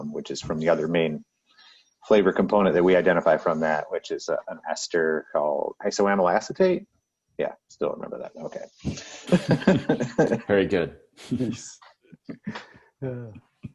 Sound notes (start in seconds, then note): 8.8 laughs